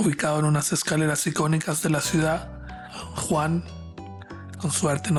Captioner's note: narrator speaking Spanish